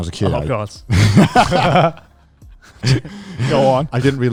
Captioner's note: all laughing quickly